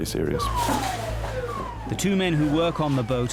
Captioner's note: siren blares